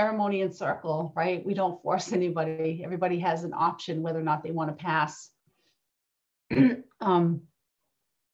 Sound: clears throat

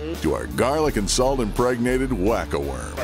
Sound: voiceover

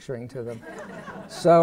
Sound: laughter

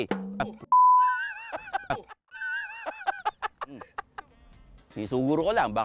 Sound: laughs

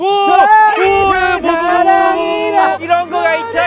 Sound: starts a screaming parade

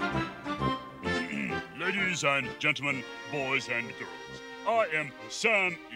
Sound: clears throat

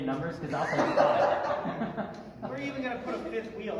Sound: laughter

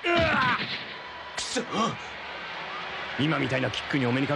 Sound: applause

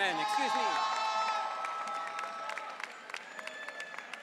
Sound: audience cheering

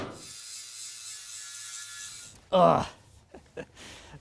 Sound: grinding; groans

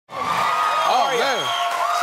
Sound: cheers

